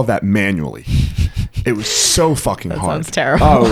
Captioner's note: laughs